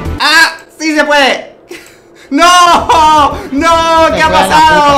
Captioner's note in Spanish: risas